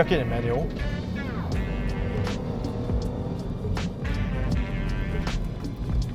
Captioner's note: engine revs